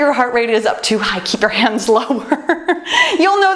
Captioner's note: laughs